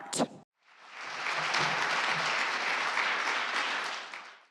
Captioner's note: clapping